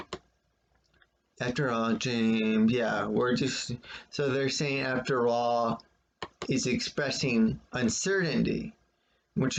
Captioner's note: click of trackpad